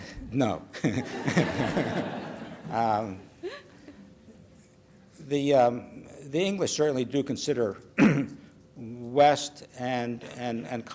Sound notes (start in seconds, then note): 0.8 laughter